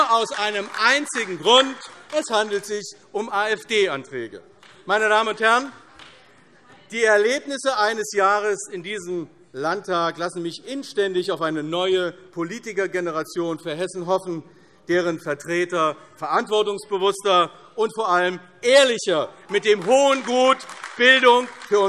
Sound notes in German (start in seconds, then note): 3.4 Beifall AfD - Zurufe: Ah!